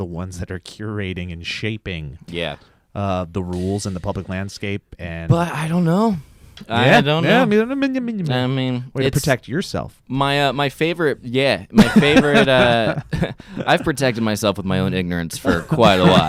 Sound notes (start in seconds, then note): 6.2 sighs deeply; 7.3 mutters negatively; 11.8 laughs